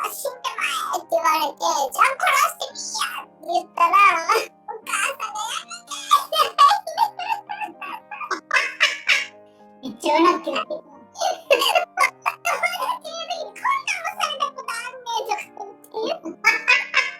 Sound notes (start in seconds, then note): 7.6 laughs; 12.1 laughs